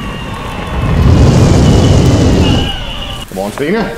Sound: flamethrower sound

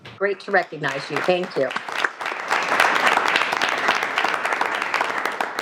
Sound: everyone applauds

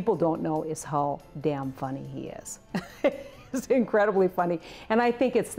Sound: laughs

